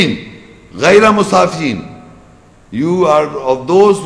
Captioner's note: Arabic